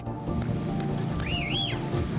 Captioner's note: whistling